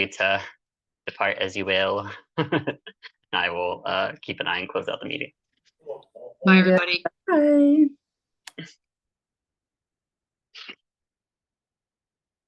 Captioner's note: multiple people say goodbye